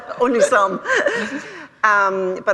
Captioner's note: laughter